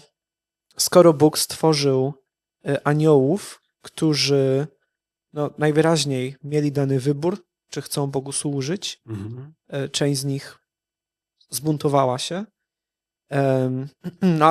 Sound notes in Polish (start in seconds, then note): 3.6 parsknięcie